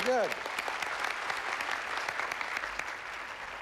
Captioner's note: applause